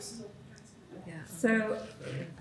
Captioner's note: softly talking off mic